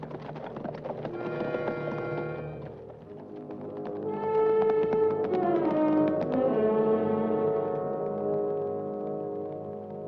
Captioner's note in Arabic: صوت حوافر; موسيقى مشؤومة